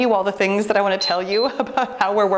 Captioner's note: timer beeps